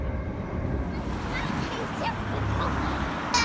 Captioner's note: children playing; cars driving past